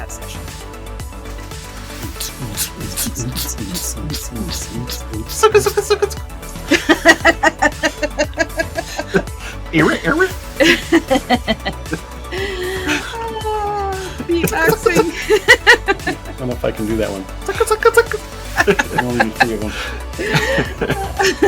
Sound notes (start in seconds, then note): 0.2 laughter; 8.2 rap noises; 10.1 laughter